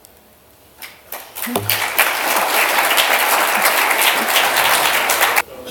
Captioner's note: applause